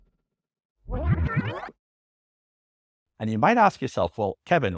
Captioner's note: record scratch